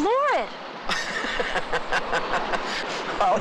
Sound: laughs

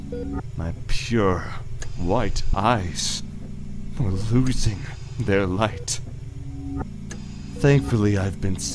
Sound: mechanical ambiance

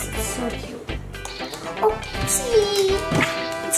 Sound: camera shutter clicking

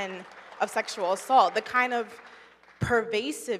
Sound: audience applauding

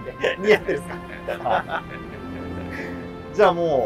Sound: laughing

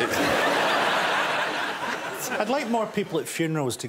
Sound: audience laughs

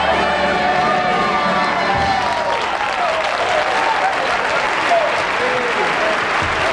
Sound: audience applauding

